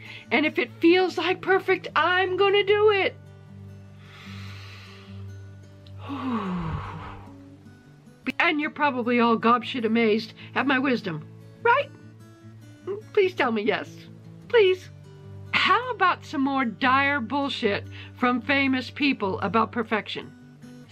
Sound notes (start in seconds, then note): 3.9 hoooooooo exhales; 5.9 inhales